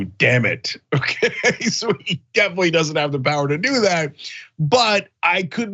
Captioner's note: laugh